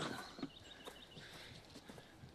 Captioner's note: grunting